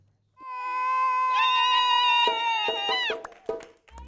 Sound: cheering

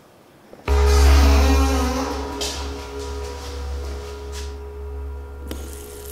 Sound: tense music; door squeaking; water rushing

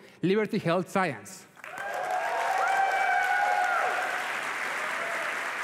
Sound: applause and cheering

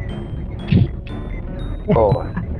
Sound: laughs

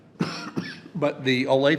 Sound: coughs

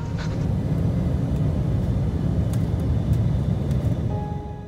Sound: plane engine revving

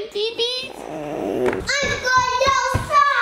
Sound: gurgles

